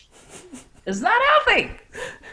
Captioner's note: chuckles